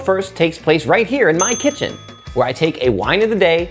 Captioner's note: bell dings